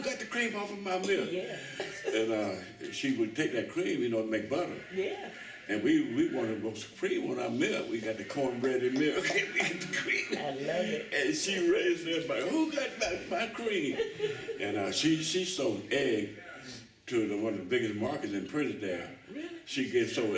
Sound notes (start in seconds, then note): 8.9 laughter